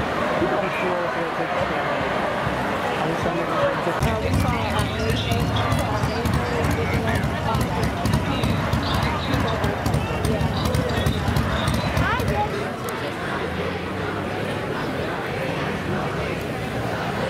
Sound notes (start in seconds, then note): 3.1 motorcyle rumbling